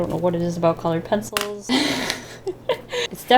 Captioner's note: laughs